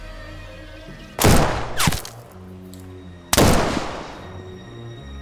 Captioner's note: gunshots banging